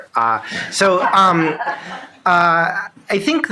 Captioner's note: shared laughing